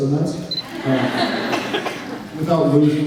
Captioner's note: laughs